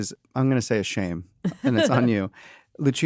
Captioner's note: chuckles